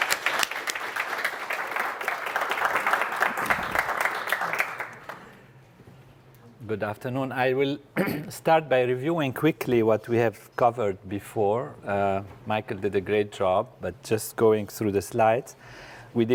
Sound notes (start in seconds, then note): 0.0 applause; 7.9 cough